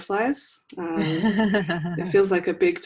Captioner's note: laughs